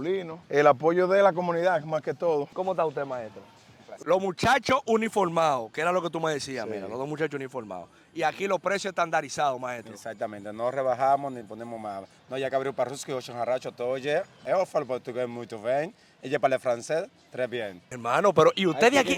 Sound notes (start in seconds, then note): 12.0 speaks in Russian, Portuguese, and French